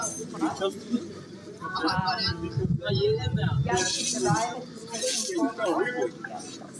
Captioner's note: city sounds and voices continue